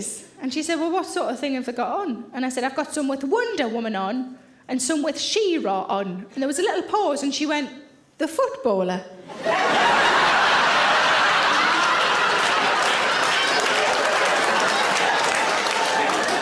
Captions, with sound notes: and she said, "Well, what sort of thing have they got on?" And I said, "I've got some with Wonder Woman on and some with She-Ra on," and there was a little pause and she went, "The footballer?" (audience laughing) (audience applauding)